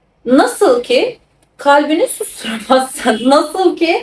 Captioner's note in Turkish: kahkaha